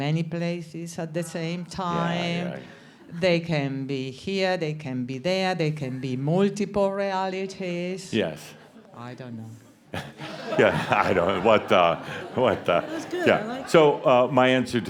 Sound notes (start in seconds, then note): 12.5 some chuckles